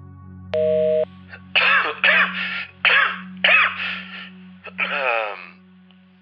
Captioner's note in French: Quinte de toux